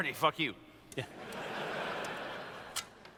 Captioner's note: laughter